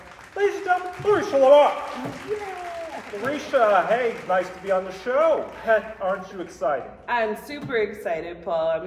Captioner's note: applause